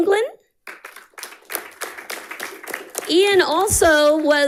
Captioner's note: audience applauding